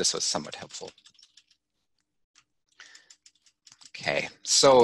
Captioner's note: scrolling